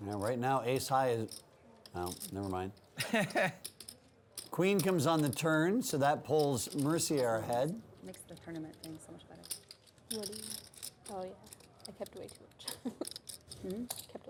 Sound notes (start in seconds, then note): 3.0 laughs; 12.6 laughs